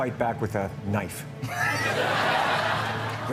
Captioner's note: laughter